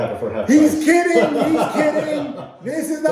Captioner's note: laughing